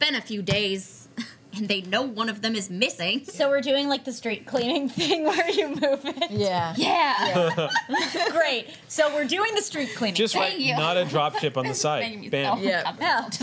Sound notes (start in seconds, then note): 7.1 laughter